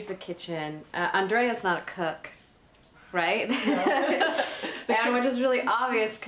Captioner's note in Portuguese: risos